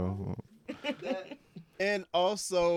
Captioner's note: laughing